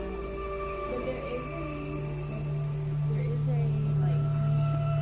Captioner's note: soft speaking